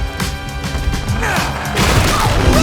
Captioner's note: grunting